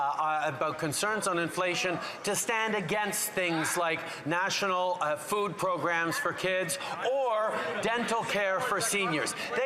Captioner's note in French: voix de l'interprète